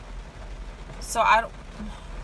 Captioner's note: sigh